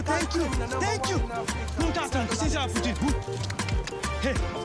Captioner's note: speaking gibberish